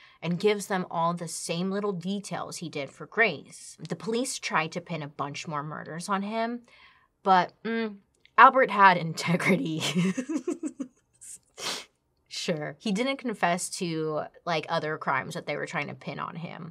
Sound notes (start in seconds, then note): 10.0 laughs